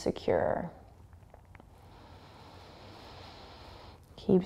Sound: breathing

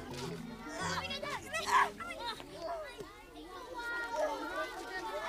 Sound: clamoring

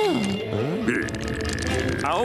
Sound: growling

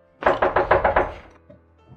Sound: knock

